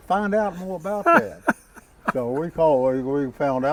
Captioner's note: host laughing